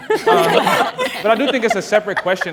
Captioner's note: people laughing